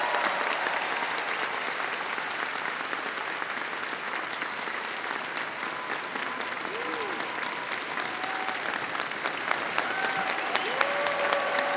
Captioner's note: applause